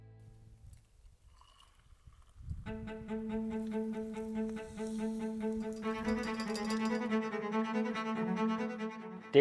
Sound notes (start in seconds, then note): 0.7 water trickling; 2.7 adventurous music